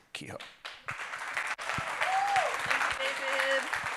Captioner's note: audience applauding and cheering